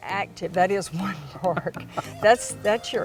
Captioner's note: chuckles